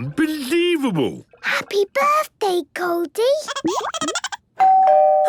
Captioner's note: Goldie giggling; doorbell ringing